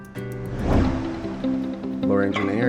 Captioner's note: air whooshing; gentle music